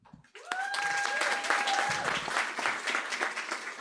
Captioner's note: applause